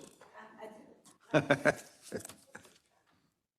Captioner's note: laugh